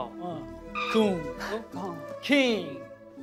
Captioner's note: squeak